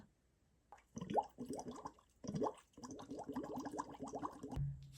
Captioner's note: water bubbles